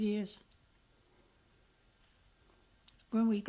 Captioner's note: pauses for 3 seconds